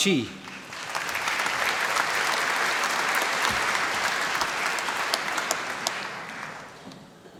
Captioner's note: applause